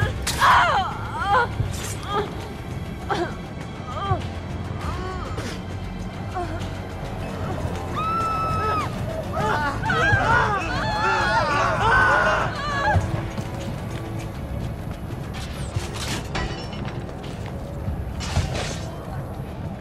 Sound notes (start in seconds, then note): 7.3 people screaming